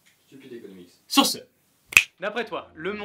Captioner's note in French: claquement de doigts